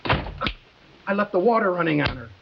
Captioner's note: Wilson clicks fingers